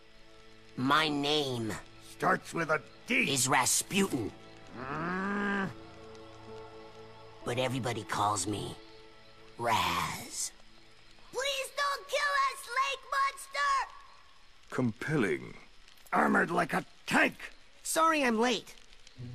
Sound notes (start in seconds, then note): 4.7 grrrr